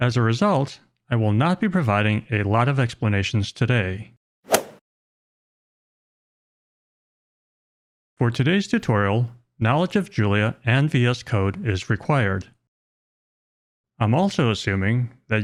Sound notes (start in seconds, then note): 4.5 golf ball hit sound effect